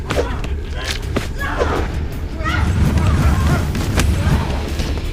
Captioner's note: bone crunching